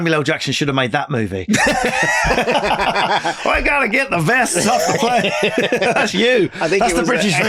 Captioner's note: laughing